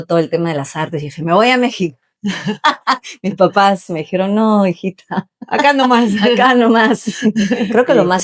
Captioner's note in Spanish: risas